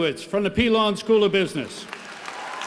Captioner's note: applause